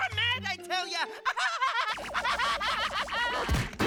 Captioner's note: laughing